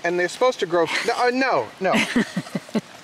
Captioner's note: laughing